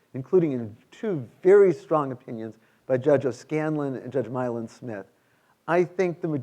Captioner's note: none